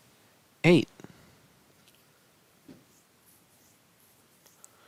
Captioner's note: no Speech Detected